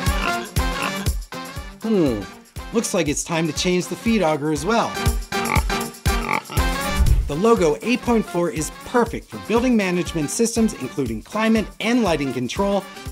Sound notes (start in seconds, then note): 0.0 upbeat music; 0.0 pigs grunting; 6.1 pig grunting